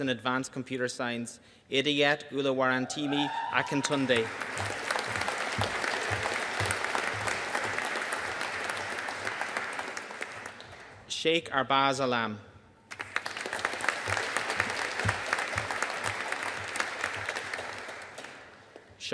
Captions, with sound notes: in Advanced Computer Science, Idayat Oluwarantimi Akintunde. (ATTENDEE CHEERING) (AUDIENCE APPLAUDING) Sheikh Arbaz Alam. (AUDIENCE APPLAUDING)